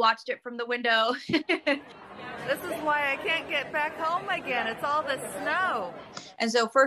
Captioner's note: laugh